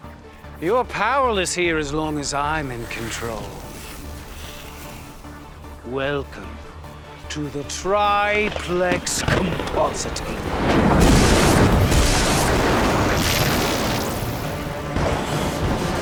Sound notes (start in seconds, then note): 3.9 soft whooshing; 10.5 loud bangs, thundering; 13.1 tense dramatic music